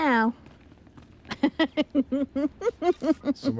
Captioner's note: giggles